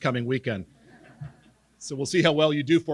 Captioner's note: laughing